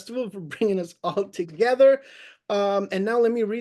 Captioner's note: laughs